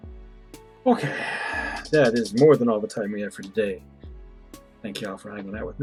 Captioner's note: sighing